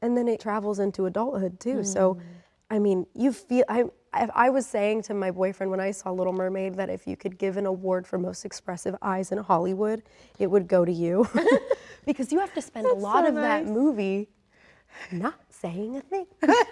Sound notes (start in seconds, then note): 11.2 Rachel laughs; 11.2 laughs